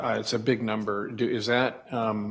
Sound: none

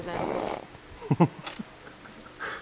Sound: snicker

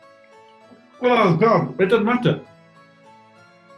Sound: splutters

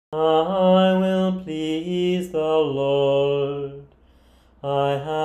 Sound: chanting

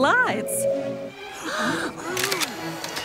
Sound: gasping

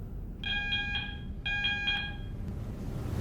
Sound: hospital alarm blares

